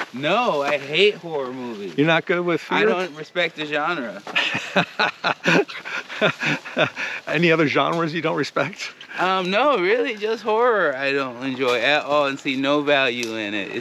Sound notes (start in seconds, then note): 2.6 laughs